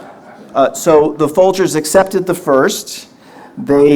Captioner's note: audience laughter